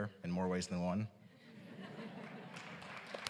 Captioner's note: applause